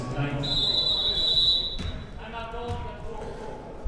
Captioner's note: whistle blows